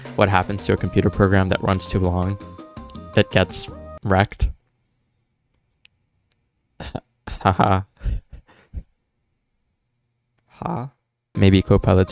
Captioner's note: nervous lols